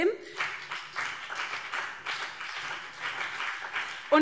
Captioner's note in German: Beifall CDU und BÜNDNIS 90/DIE GRÜNEN